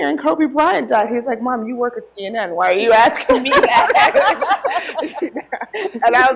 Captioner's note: laughter